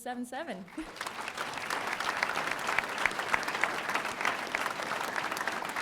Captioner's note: audience applauding